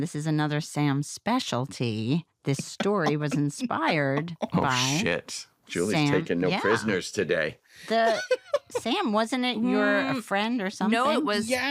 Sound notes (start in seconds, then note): 2.6 laughs; 7.8 laughs